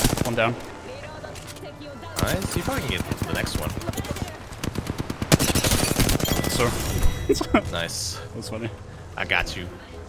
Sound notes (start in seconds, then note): 7.2 suppressed Laughter